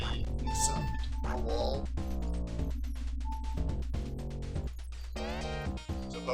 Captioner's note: Nintendo DS startup sounds from Kaz's DS play